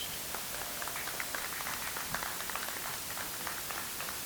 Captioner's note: audience applauds